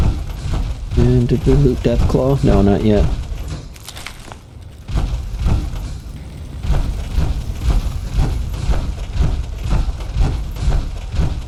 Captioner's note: gunfire